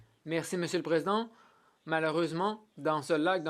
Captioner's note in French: voix de l'interprète